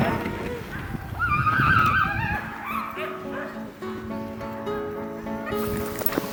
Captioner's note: soft guitar music; dogs yowling excitedly